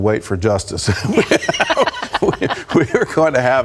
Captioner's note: laughter